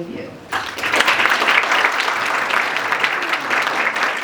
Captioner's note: audience applauds